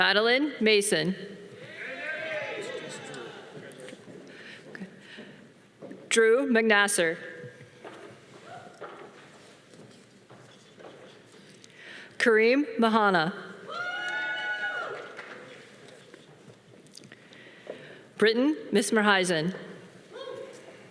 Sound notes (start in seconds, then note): 1.6 audience cheering; 13.7 audience cheering